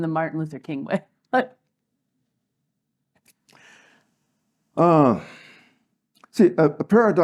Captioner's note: laugh